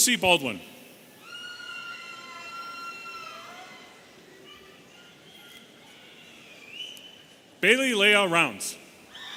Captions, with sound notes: - Josie Baldwin. (audience cheering and whistling) Bailee Leah Rounds.